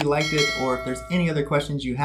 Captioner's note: bell dings; mouse clicks